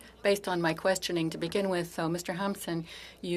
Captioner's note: speaking French